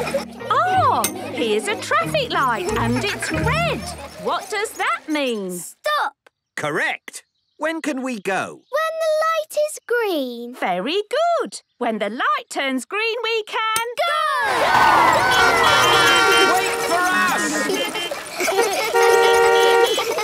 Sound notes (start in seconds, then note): 14.8 beeping; 16.8 laughter; 18.2 beeping